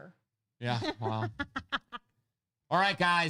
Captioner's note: laughing